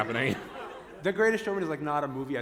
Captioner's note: laughter